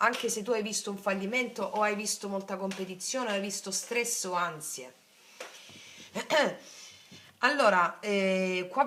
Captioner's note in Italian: schiarire la voce